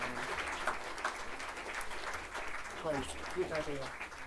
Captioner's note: audience applauding